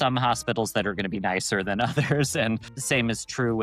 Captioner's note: chuckles